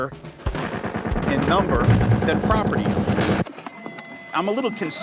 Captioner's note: gunshots